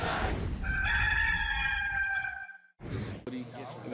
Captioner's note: rooster crowing